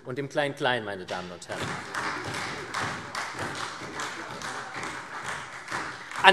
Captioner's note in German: Beifall SPD